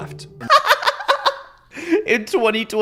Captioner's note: laughs